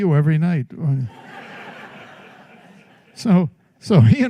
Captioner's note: laughter